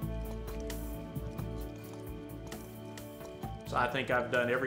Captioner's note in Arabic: صراصير الليل تغرد